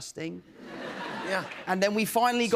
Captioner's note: laughter